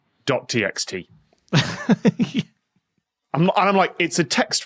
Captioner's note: laughs